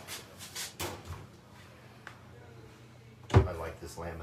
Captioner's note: door opens and closes